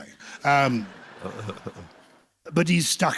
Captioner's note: laughter